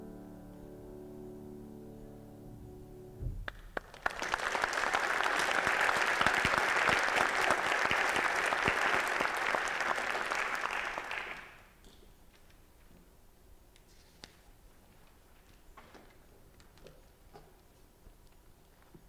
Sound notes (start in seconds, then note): 3.4 applause